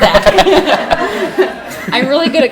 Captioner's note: laughing